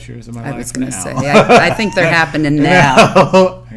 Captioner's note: laughter